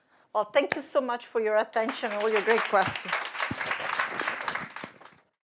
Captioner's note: applause